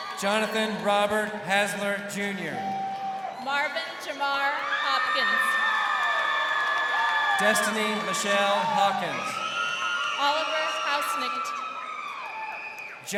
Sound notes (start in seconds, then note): 5.2 crowd cheering; 9.6 crowd cheering